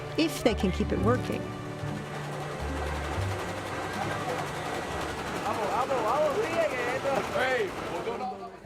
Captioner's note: speaking spanish